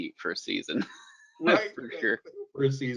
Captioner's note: laughs